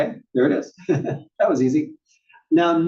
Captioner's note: laugh